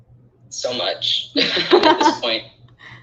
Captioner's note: laughing